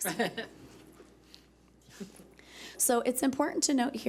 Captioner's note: chuckling